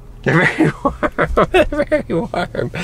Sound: laughing

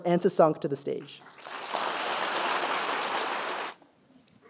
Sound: applause

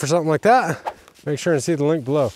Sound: link whooshing

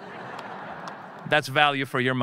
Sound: audience laughing

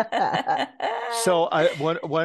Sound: laugh

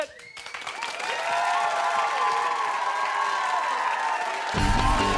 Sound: cheers and applause

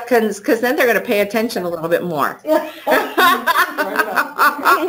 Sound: laughter

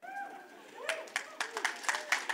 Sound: audience member whoops; audience claps

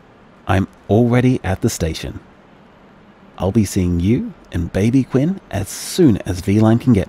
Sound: BG FX: Train station ambience

